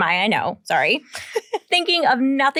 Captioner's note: giggling